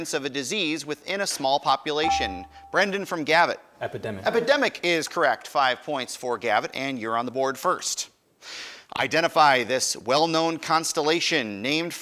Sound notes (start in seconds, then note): 1.9 buzzer dinging